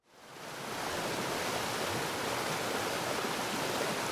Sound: waterfall crashing

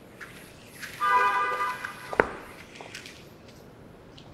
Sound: car horn honks

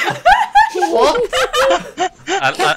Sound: laughter

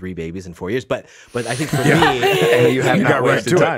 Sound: all laughs

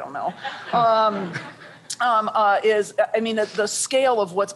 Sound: laughter

